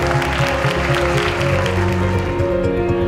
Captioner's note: applauding; energetic orchestral music